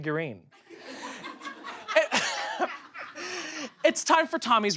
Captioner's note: audience laughs